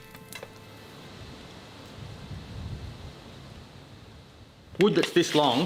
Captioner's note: gentle music; gentle breeze whooshing